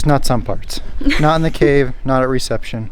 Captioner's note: laughs